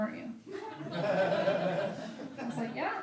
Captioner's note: laughing